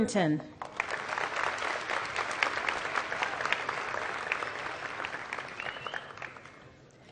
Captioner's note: applause